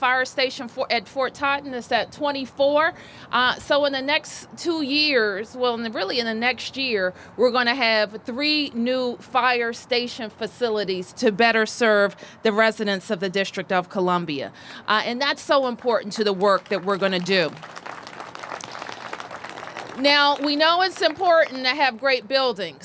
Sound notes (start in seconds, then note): 18.0 applause